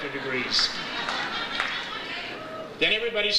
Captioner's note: audience laughs